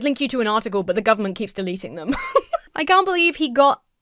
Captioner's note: laughs